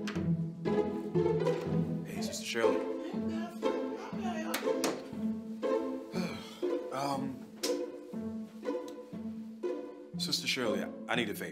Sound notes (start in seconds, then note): 6.1 sighs